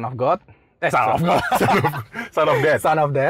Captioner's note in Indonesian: Ketawa